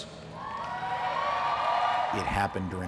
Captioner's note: crowd cheers